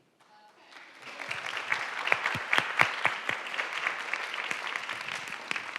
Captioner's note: attendees applauding